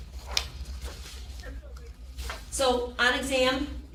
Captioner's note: people chattering